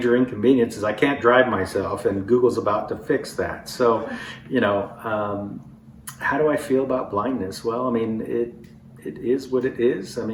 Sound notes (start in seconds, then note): 3.7 laughter